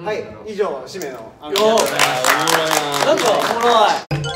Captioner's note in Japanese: 拍手